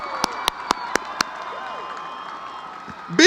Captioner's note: cheering